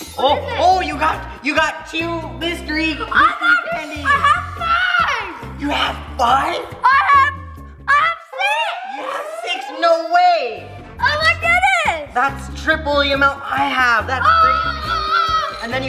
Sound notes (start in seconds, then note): 0.0 candies jingling; 8.6 klaxon wailing; 14.2 screams